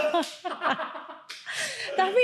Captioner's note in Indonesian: tertawa